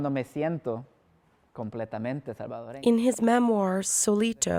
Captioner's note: speaking Spanish